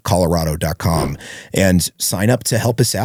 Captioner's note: whoosh